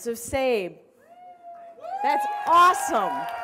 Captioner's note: cheering